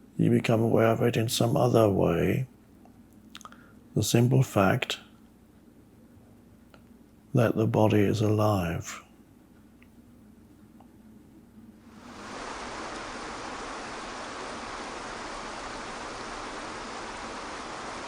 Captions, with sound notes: You become aware of it in some other way. The simple fact that the body is alive. (water flows)